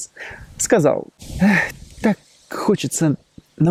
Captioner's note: sigh